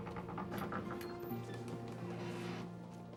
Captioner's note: door creaks